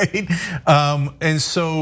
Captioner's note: laugh